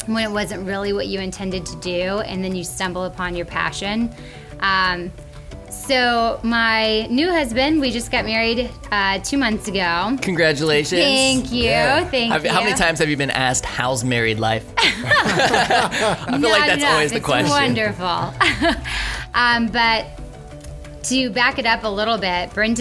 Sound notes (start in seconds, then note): 14.8 laughs